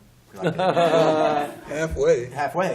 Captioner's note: laughter